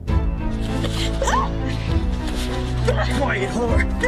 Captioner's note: screams